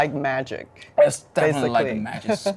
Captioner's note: laughing